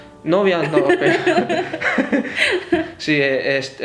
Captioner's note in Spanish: risa